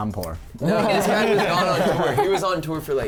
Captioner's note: laughs